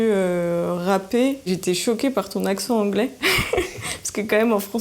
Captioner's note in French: Rires